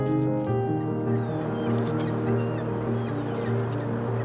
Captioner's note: seagulls calling